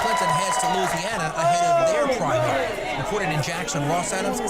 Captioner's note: applause